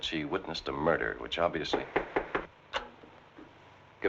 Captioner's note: knocking